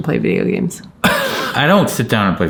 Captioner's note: chuckling